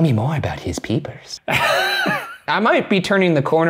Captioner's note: laughing